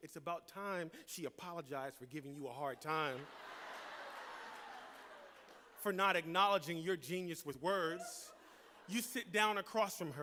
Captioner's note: laughter